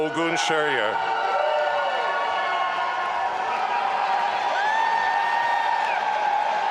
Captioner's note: audience applauding and cheering